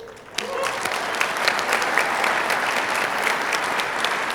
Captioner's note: audience applauding